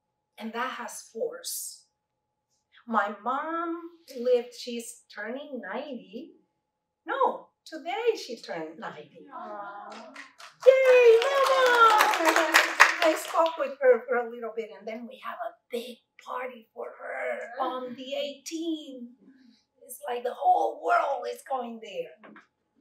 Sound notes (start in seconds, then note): 9.9 clapping